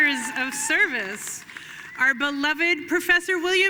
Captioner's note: audience cheering and applauding